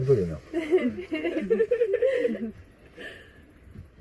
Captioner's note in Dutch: gelach